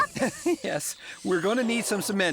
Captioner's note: chuckling